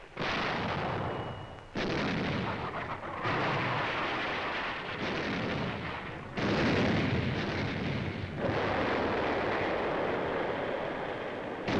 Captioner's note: sounds of explosions